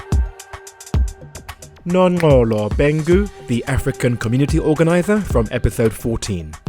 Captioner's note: voiceover